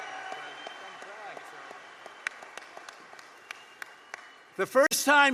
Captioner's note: applause